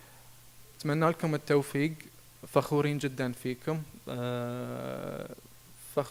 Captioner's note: speaking in foreign language